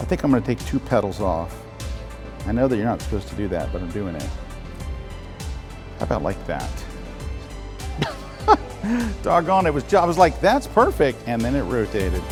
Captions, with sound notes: I think I'm gonna take two pedals off. I know that you're not supposed to do that, but I'm doing it. How about like that. (laughs) Dug on. Gee, I was like, "That's perfect!" and then it rotated.